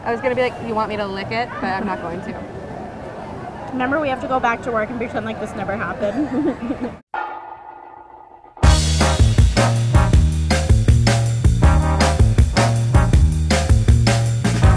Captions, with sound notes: - I was gonna be like, do you want me to lick it? But I'm not going to. - Remember we have to go back to work and pretend like this never happened. (laughs) (upbeat music)